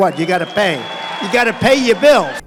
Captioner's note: applause